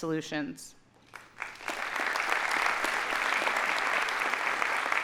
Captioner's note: audience applauding